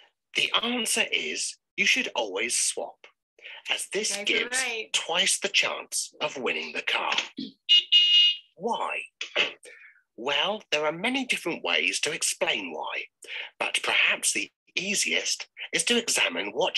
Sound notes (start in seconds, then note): 7.7 car honks; 8.9 door shuts